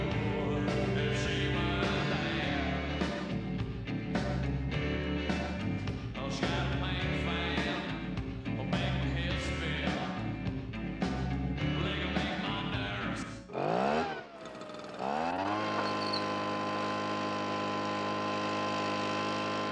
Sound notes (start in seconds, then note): 13.5 leaf blower rumbling